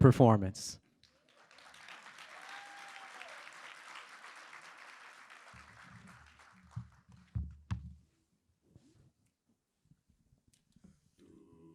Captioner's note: applause